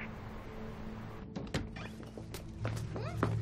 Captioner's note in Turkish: Kuş sesi; Kapı gıcırtısı sesi